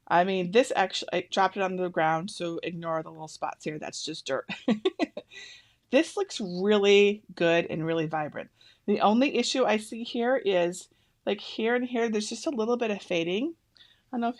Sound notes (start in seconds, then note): 4.6 laughs